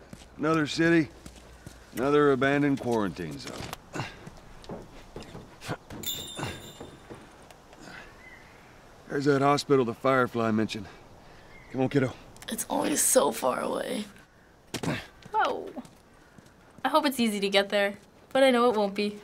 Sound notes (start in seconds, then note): 3.8 Joel grunts; 6.0 indication chime; 14.7 Joel grunts